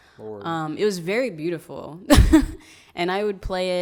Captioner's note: chuckles